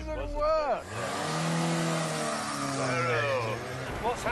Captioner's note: engine revs